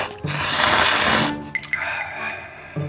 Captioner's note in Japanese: クハーッ